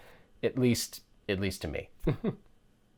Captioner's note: chuckles